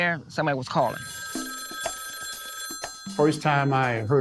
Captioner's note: phone ringing